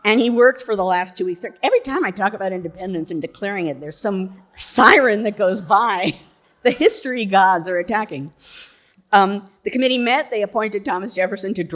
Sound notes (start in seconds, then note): 6.1 laughs